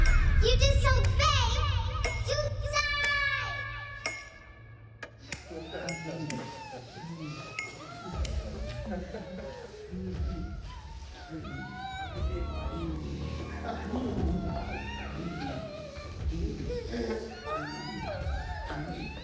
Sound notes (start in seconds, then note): 7.8 victims groaning; 9.4 dramatic music